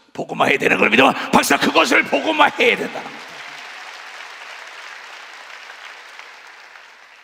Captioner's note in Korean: 박수